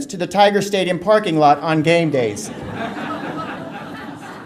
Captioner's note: audience laughter